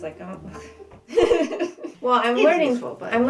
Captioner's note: laughter